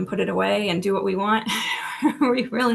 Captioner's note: laughs